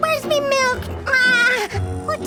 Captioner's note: cry